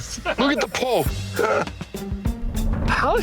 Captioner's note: guys laughing